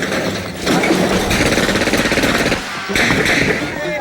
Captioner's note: lockers clatter; gunshots fire